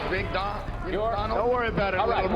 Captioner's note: crowd cheering